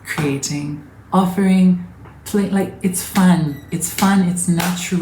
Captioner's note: sharp passionate claps in between